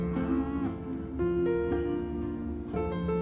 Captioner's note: cow moos